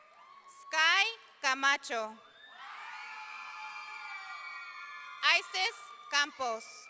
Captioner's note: audience cheering; audience cheering